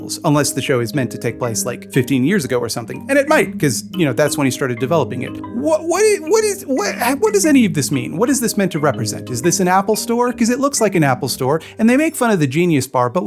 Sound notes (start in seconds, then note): 5.4 stammering